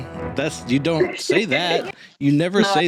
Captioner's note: laughing; small laugh